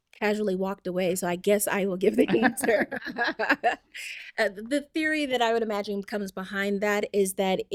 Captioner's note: laughter